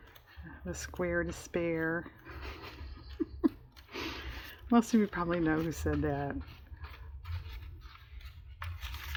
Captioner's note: laughs